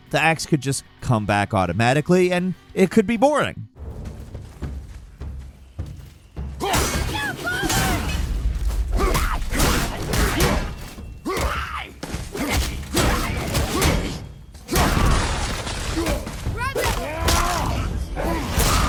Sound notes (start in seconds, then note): 4.0 tense dramatic music; 9.0 Kratos grunting; 9.0 enemy screeching; 12.4 fists thudding; 12.4 shield clanging